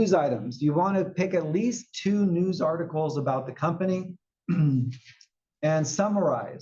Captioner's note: cough